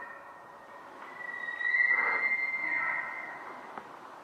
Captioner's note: close Bull Elk Bugle; distant Bull Elk Bugle